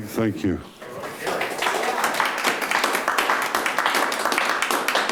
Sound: audience applauding

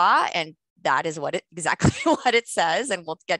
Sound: laughter

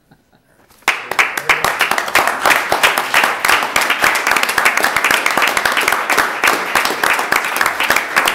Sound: chuckling; applause

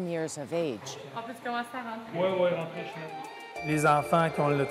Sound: speaking French

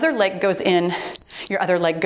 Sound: timer beeps

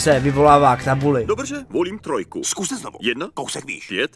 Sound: Czech dubbing

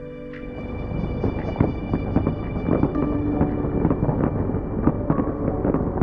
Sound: fireworks popping and crackling

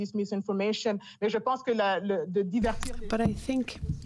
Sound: speaking French

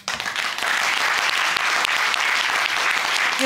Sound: audience applauding

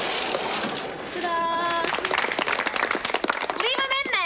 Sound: audience clapping

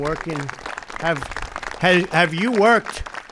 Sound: applause

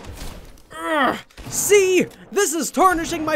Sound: grunts

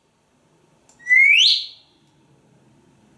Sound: whistle

